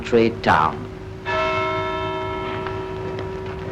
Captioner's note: clock strikes